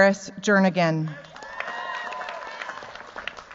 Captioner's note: cheers, applause